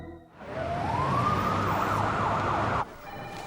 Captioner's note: sirens wailing